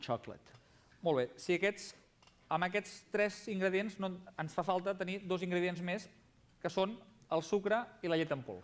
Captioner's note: non-english speech